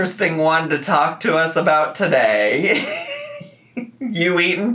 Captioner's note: laughs